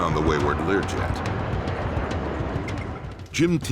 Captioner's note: F-16 growling